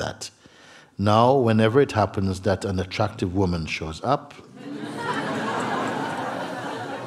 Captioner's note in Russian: пауза, смех